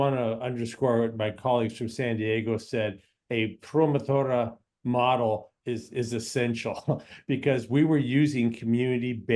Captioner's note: laughs